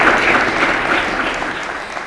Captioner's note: applause